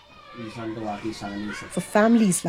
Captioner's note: speaking Gujarati